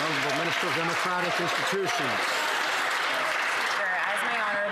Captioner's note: some Applause